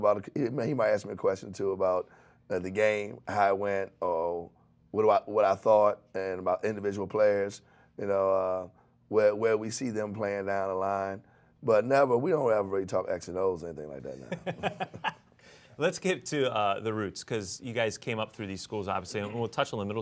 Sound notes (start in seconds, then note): 14.2 laughs